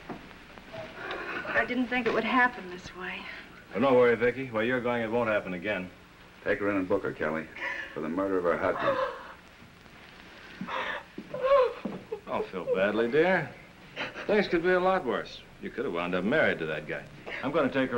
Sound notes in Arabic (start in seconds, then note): 9.3 بكاء